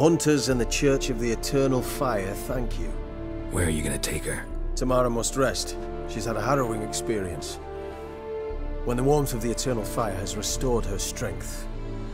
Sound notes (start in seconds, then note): none